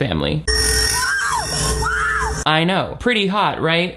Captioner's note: intense instrumental music; shrieks